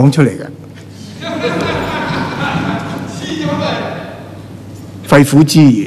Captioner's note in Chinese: 笑声